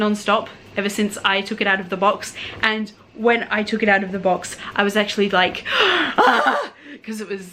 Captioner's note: excited scream